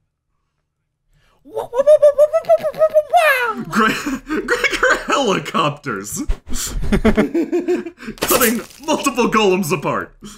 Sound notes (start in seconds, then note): 1.4 wooping noises; 6.6 laughter